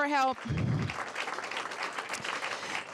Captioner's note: applause